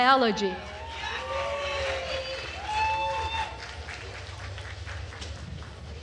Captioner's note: attendees cheering and applauding